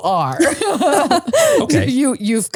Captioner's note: laugh